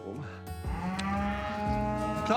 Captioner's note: cows mooing